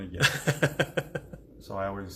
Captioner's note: laughing